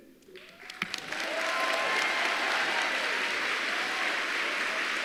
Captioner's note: applause